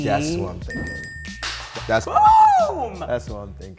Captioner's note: three dings